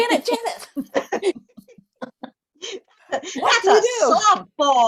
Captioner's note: laughter